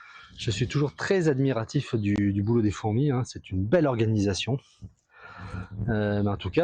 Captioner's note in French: soupir